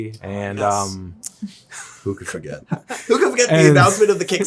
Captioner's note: Zack chuckles